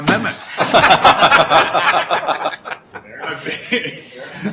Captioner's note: laughing